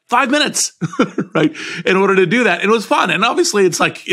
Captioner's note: laugh